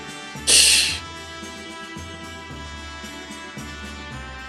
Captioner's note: laughs softly